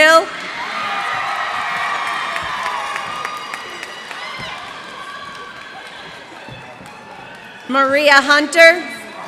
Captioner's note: cheers and applause